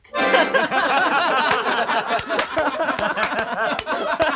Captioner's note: plays accordion; all laugh